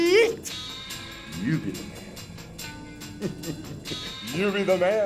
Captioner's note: chuckling